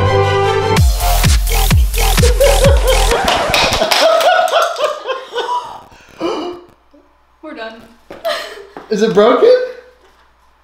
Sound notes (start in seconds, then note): 0.0 upbeat music; 4.1 laughs